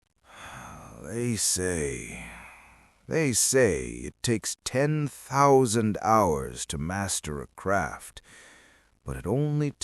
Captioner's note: deep sigh